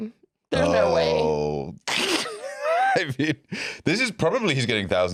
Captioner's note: laughs